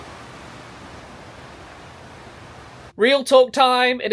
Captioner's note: breeze blowing